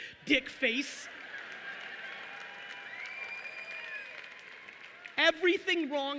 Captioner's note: audience cheering and applauding